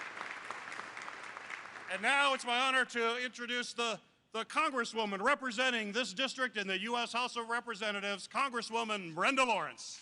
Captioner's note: applause